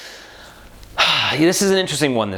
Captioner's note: sigh